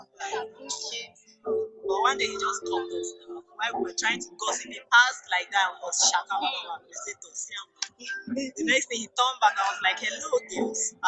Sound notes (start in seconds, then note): 5.8 speaking in tongues